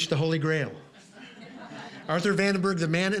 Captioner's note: audience laughing